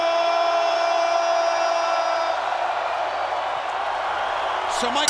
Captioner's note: crowd cheering continues